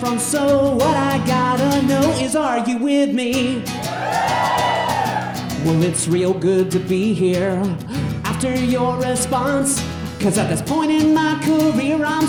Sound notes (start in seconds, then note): 3.7 audience cheering